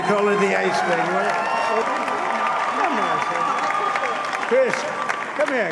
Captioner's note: applause